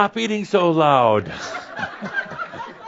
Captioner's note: laughter